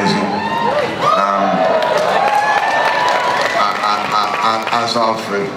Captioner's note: audience cheering and applause